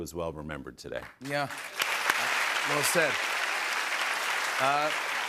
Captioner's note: applause